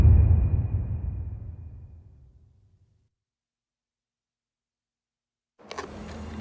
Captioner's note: dramatic sound